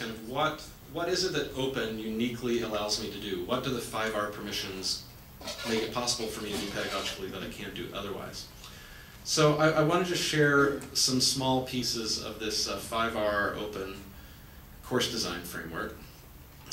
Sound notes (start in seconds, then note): none